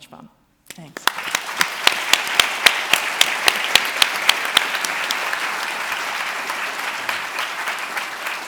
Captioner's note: applause